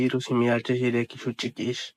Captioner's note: speaks in K'iche'